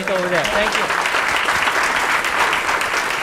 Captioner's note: applause